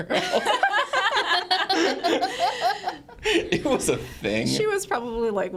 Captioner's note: group laughing